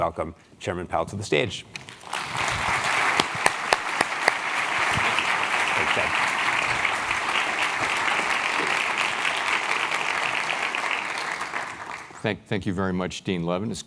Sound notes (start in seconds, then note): 1.8 applause